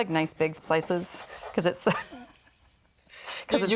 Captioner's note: laughing